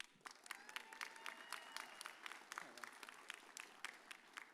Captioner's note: audience applauds